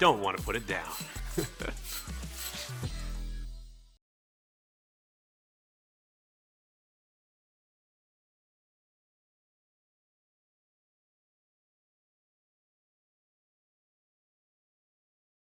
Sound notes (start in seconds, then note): 0.1 laughing; 0.4 slinky metallic clinking